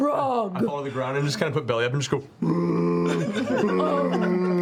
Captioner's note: piteous moaning